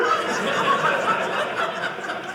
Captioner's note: audience laughing